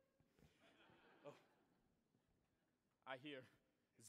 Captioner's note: audience chuckling